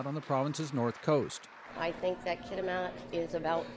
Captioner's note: applause